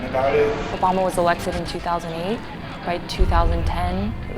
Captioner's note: voiceover